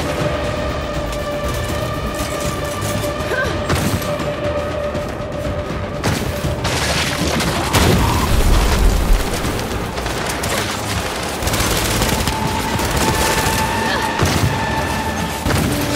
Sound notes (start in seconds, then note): 6.0 gunshots